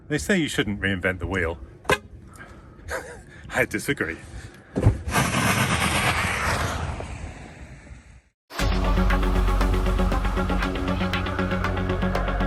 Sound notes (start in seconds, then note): 2.1 car honks; 2.9 laughs; 5.2 car engine revving; 8.6 suspenseful music begins